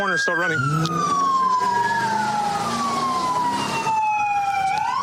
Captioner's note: engine revving